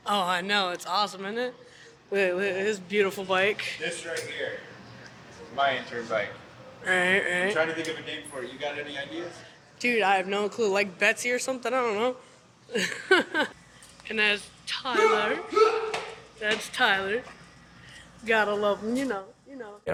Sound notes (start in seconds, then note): 12.8 laughs; 15.1 shouting excitedly